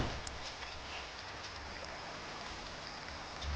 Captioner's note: tailgate slamming